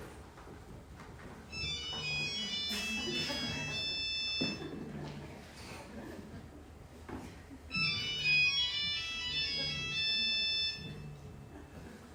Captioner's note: mobile phone rings